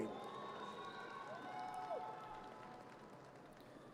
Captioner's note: audience cheers